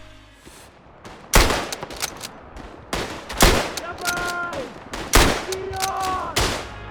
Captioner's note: gun banging; yelling in foreign language